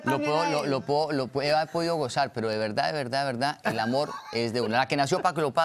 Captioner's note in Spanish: risas